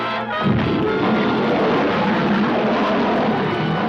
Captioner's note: elephant trumpets; lions roaring